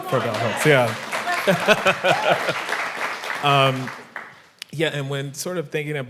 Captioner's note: audience applauding and whooping